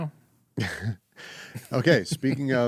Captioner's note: laughing